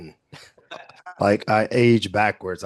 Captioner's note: everyone chuckling